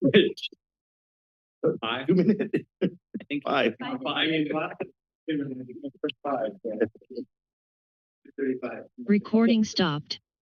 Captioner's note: background conversations